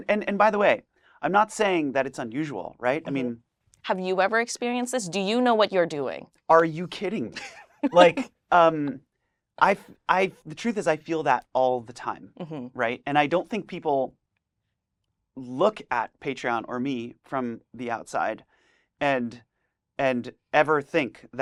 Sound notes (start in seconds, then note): 7.3 laughs